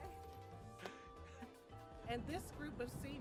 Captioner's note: laughing